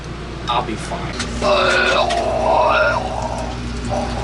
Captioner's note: projectile vomits and retches